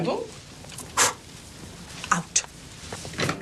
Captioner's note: exhales sharply